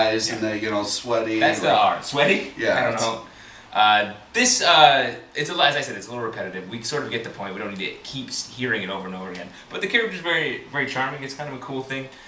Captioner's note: laughs